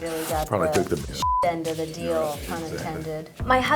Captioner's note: beep